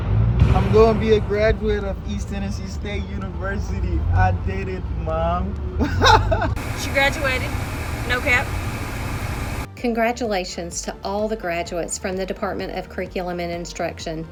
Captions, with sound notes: I'm gonna be a graduate of East Tennessee State University. I did it, Mom. (laughs) - She graduated. No cap. - Congratulations to all the graduates from the Department of Curriculum and Instruction.